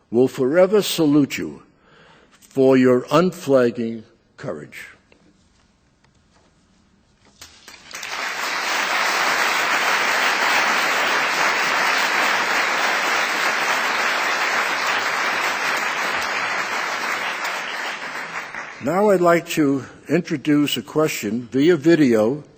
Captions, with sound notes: will forever salute you for your unflagging courage. (applause) Now, I’d like to introduce a question via video